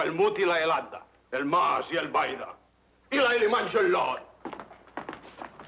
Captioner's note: priest speaks foreign language